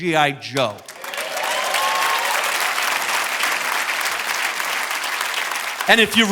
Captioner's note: audience cheering and applauding